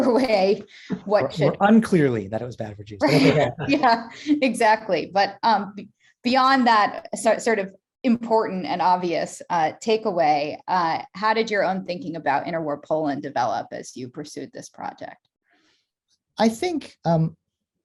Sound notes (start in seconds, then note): 1.1 laughing; 2.8 laughs